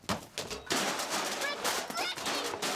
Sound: banging

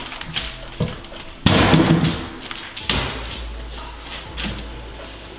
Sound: cabinet slams

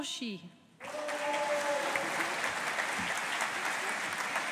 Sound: audience applauding

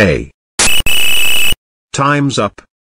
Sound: whistle

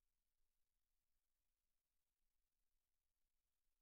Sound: none

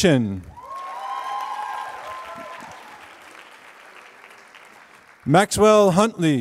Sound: applause

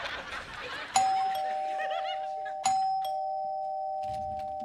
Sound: doorbell ringing

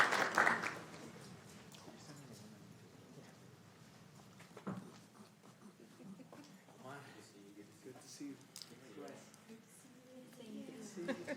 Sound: applause

